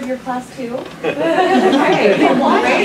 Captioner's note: laughter